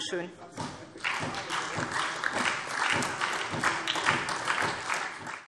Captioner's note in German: Beifall SPD und vereinzelt DIE LINKE